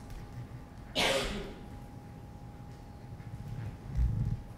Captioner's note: person coughing